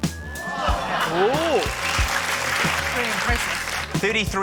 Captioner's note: audience exclaims, applauds